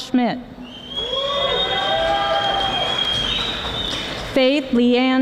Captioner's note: audience applauding